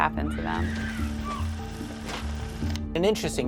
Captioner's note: scream